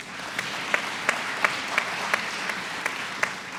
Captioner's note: applause